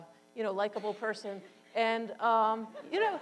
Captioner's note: audience laughs